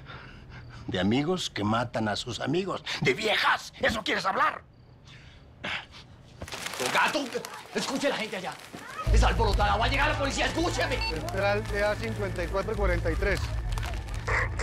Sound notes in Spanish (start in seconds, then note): 6.3 Ruido al lanzar los billetes; 7.0 Exclamaciones en la calle; 10.9 Bip; 14.4 Exclamaciones de la gente